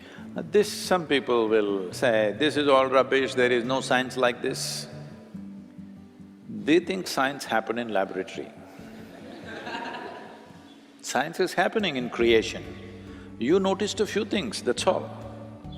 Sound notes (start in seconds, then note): 8.9 laughter